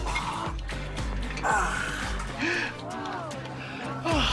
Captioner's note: gasps